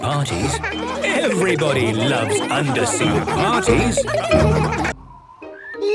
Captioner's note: laughter